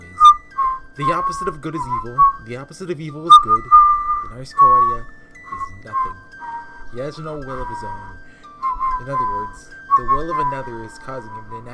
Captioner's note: whistling over lore